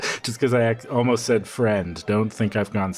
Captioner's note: scoffs